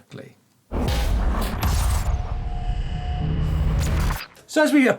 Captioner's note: electronic rumbling